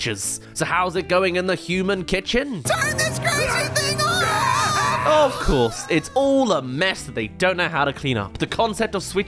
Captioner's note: screams